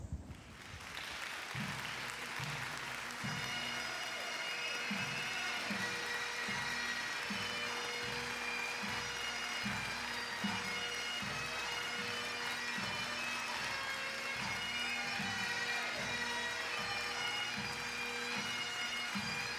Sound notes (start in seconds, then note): 0.6 audience cheers and applauds; 3.4 jubilant bagpipe music